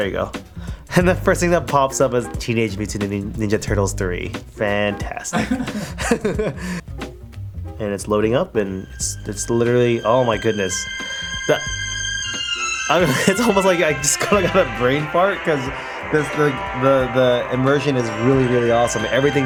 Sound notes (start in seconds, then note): 5.3 laughter